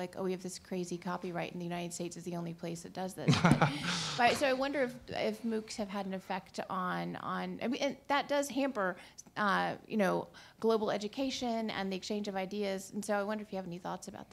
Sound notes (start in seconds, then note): 3.2 laughter